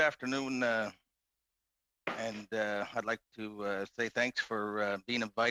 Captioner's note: speaking French